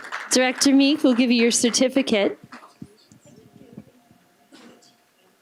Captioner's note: applause